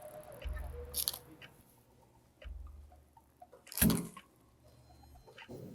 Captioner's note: cleaner squirting